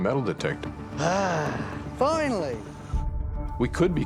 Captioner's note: sighs